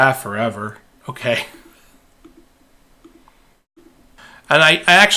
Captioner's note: laughing